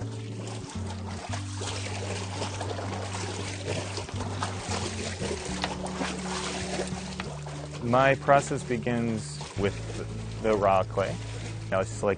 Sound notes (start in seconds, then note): 5.2 water splashing